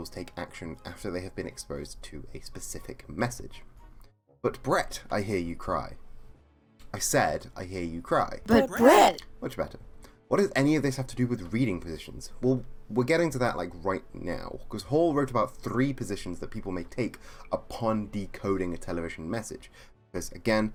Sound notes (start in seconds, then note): 8.5 crowd